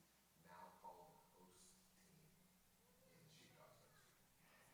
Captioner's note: man speaks quietly